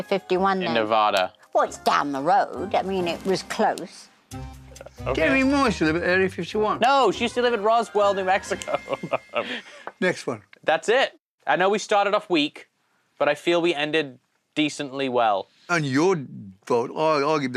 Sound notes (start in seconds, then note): 8.5 laughs